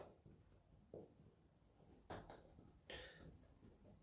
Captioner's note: breathes in